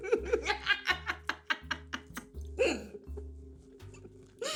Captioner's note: laughing